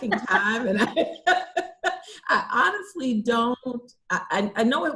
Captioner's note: laughs